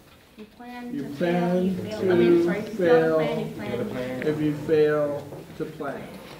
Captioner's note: students in unison